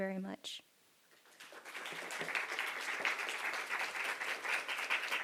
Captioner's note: applause